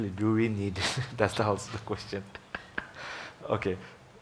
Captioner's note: laughs